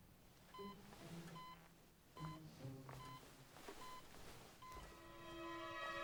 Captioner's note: medical equipment beeping